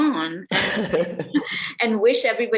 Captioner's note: laughter